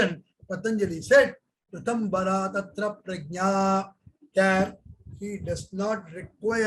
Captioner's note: speaks in Hindi